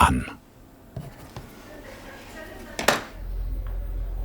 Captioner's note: bubble of voices in the background